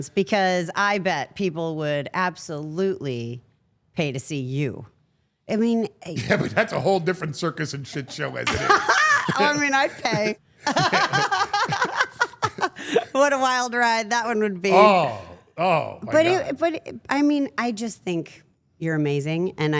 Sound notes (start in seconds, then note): 10.6 all laughing